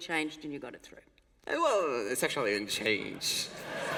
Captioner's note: laughter